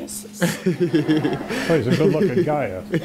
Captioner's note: laughter